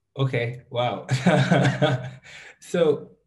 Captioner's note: chuckles